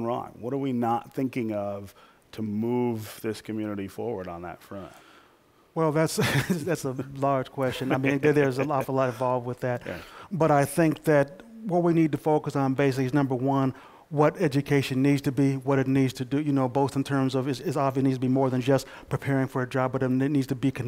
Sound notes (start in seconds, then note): 6.2 laughter; 7.6 laughs